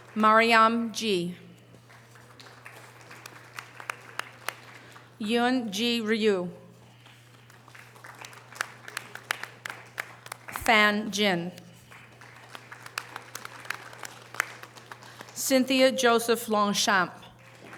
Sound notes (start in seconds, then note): 1.7 audience applause; 7.0 audience applause; 11.8 audience applause